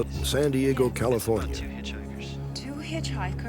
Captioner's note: on phone